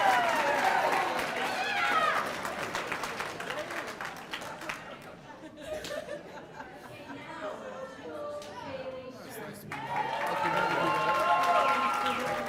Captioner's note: cheers and applause; cheering; cheers and applause